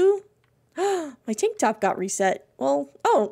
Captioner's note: gasps